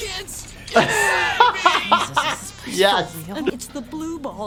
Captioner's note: laughter